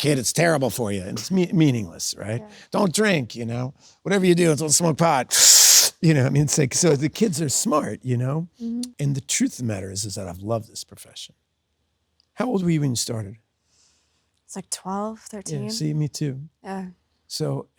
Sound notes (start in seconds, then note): 5.3 Ethan inhales